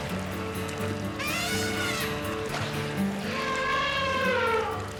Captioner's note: elephants trumpet